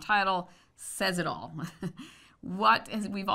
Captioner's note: laughs